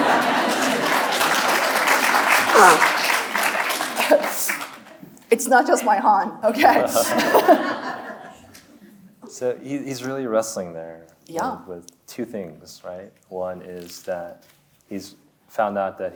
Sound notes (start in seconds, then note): 0.0 audience laughing; 0.0 audience applauding; 6.8 audience laughs; 7.0 chuckles